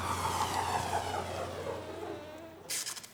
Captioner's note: electrical whirring